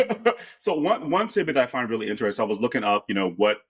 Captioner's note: laughing